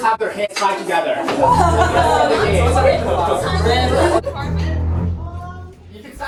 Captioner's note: noises of fear